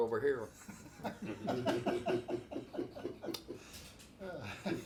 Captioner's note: laughing